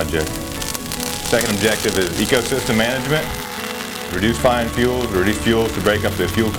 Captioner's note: flames crackling loudly